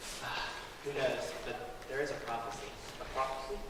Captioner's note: sigh